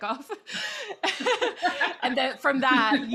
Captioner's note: laughing